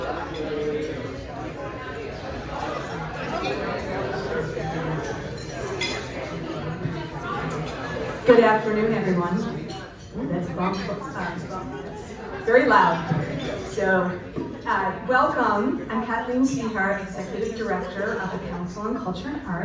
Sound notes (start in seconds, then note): 3.3 crowd talking, plates clattering